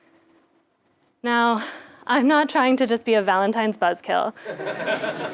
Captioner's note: laugh